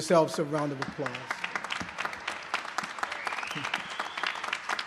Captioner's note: applause